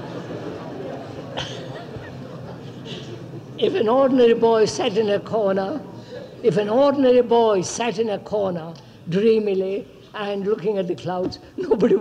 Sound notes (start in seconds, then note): 4.7 laughter; 5.9 laughs